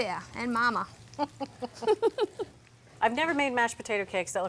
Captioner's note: both laughing